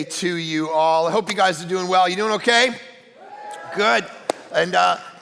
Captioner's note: audience cheering